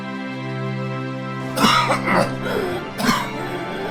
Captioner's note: coughing